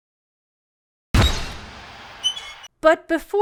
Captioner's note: burst of holy sound, squeaks from the fan swinging